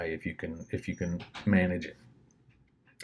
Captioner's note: door closes